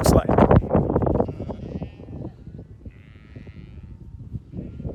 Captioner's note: sheep baaing